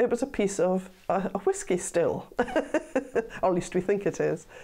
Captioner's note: laughs